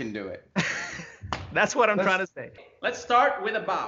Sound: laughs

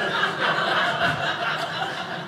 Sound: audience laughing

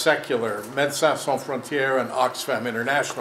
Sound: speaking in foreign language

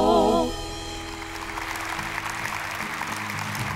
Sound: applause

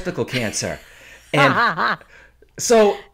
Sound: laughing

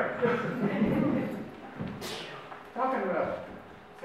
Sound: audience laughs

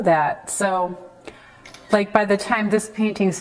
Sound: camera phone clicks

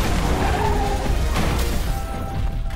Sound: booming thud; tires squealing; calm music

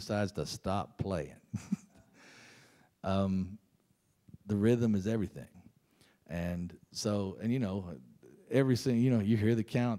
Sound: laughs

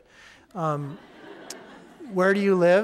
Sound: audience laughing

